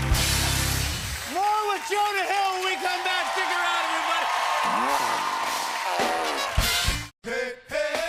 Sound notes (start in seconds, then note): 3.8 cheers and applause; 5.8 fart sounds